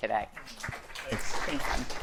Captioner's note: audience applauding